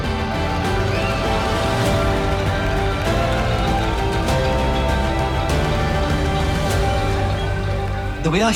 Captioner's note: cheering